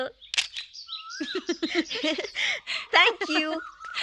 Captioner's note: chuckling